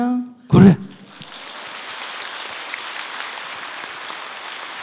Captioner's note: audience claps